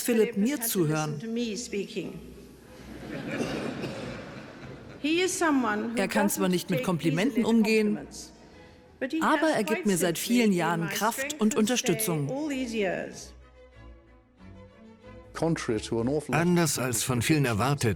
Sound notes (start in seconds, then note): 2.7 audience laughing